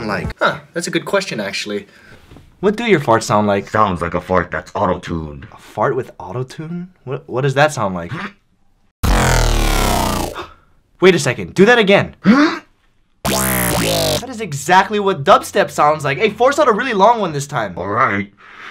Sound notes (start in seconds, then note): 9.0 auto-tuned fart; 13.2 auto-tuned fart again